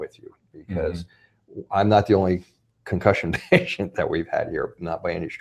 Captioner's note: laughs